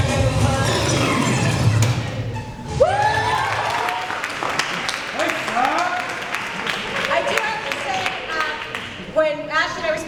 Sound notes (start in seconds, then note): 3.2 applause